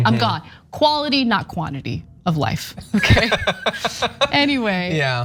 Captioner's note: laugh